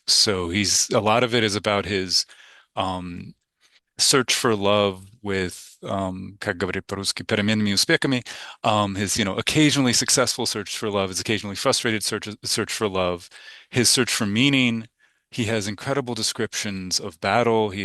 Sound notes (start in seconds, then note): 6.5 speaking in Russian